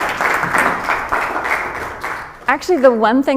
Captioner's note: applause